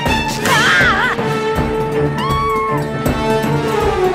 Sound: meowing

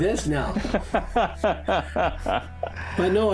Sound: laughing

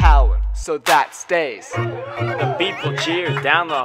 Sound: woo

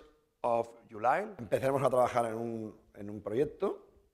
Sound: speaking spanish

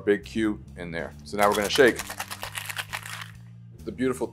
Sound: ice clattering

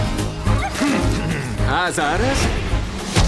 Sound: cheerful music plays; grumbles

